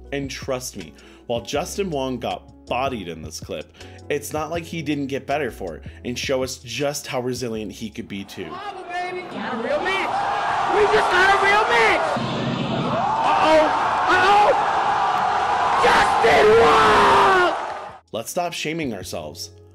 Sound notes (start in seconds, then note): 8.8 excited shouting from crowd; 15.7 crowd becomes louder and more excited